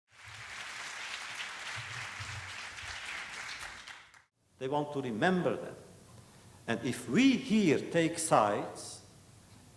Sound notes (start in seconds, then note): 0.1 applause